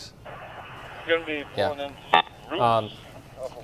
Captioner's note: police radio chatter